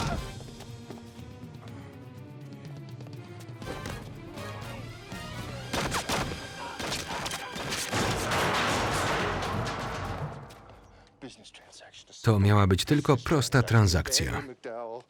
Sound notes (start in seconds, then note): 6.0 dramatic music; 6.0 guns firing